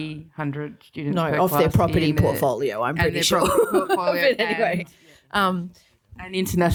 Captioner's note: giggles